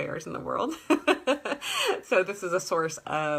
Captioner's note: laughter